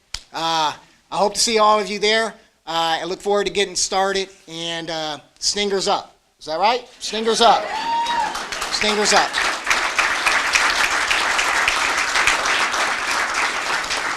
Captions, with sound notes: I hope to see all of you there, I look forward to getting started, and stingers up, is that right? Stingers up [cheering]. Stingers up. [ Applause ]